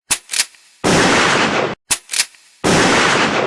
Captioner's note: gunshots